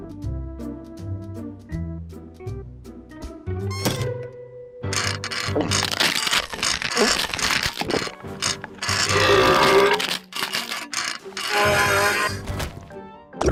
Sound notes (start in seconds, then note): 4.1 metal crunches; 7.9 burps; 12.5 burps